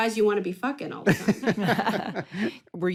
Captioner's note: laughter